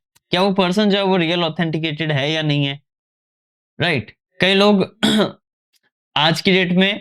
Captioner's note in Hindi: गला साफ़ करने की आवाज़